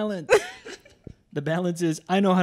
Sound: laughs

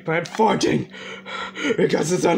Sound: heavy breathing

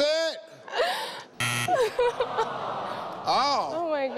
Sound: nervously laughs

